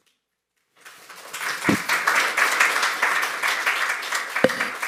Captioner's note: applause